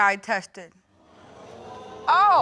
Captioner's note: audience exclaiming